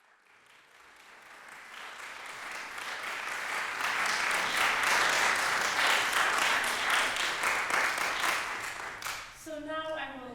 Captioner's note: applause